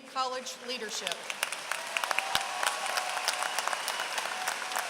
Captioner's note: applause